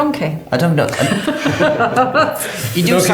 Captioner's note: laughing